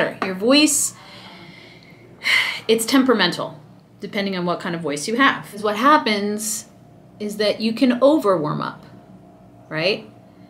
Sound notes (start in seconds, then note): 1.9 person sighs